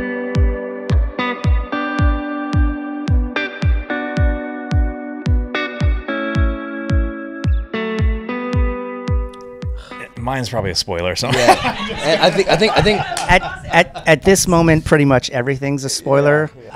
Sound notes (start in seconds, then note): 0.3 relaxed music; 11.2 laughs